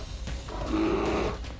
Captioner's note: snarls